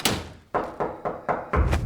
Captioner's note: front door knocking